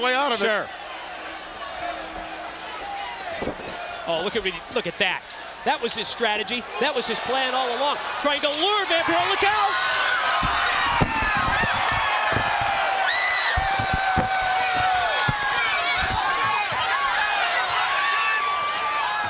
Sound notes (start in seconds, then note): 11.2 crowd cheering; 13.1 crowd chatter